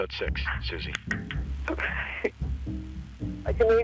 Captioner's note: voice wavers